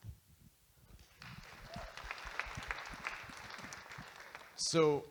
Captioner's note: audience Applauding